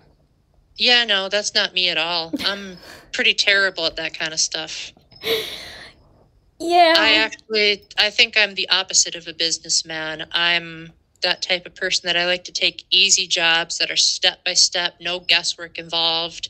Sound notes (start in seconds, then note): 5.2 laughter